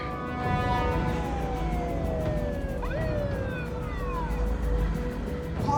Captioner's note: police siren wailing